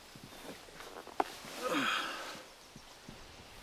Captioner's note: sighs